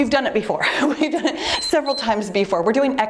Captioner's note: timer beeps